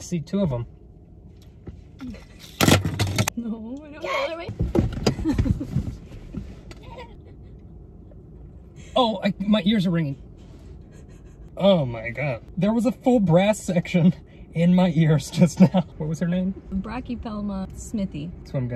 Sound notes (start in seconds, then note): 2.2 laughing; 2.5 clattering; 4.7 laughing; 4.7 rustling; 10.9 laughing